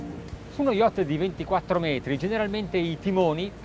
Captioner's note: speaking Italian